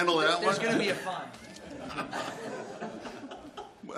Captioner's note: laughter